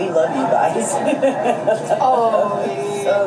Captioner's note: laughs